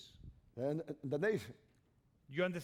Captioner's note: speaking spanish